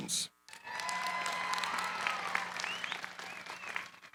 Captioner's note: cheering, applause